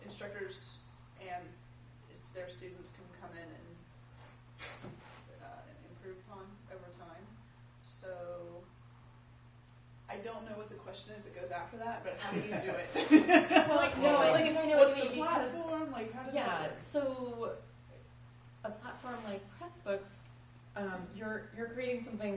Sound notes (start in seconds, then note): 12.2 laughs